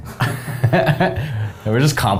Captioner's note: both laugh